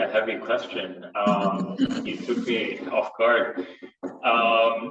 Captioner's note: all chuckling